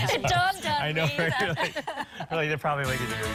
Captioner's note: laughter